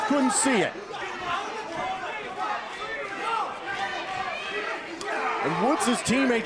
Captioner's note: crowd cheering